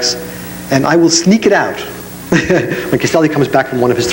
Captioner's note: laughs